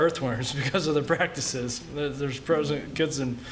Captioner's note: laughter